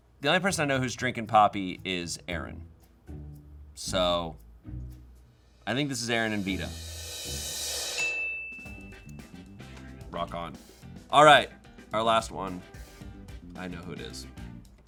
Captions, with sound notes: The only person I know who's drinking Poppi is Erin. So I think this is Erin and Vida. (drum roll hisses) (bell chimes) Rock on. All right, our last one. I know who it is.